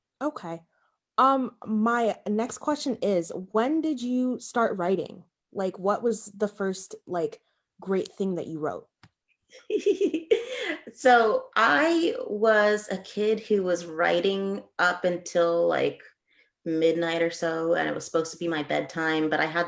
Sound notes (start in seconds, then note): 9.5 giggling